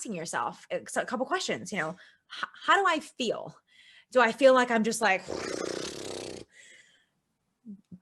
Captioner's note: blows a raspberry